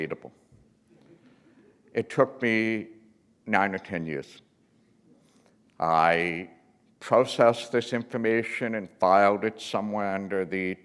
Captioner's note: chuckle